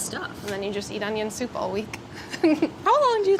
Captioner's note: laughs